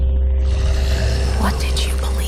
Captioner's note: inhuman growling